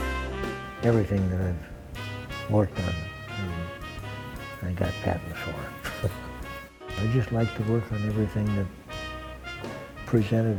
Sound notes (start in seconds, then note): 5.6 chuckles